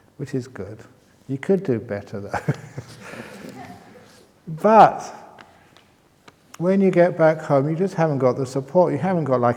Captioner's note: chuckles